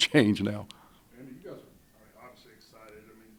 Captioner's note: voiceover